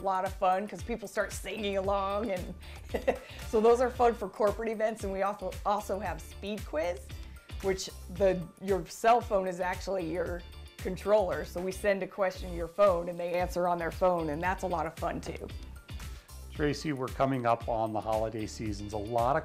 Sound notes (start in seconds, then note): 2.4 chuckles